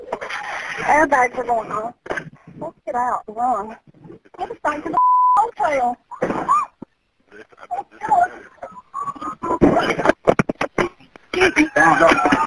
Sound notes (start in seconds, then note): 4.9 beep; 6.4 screaming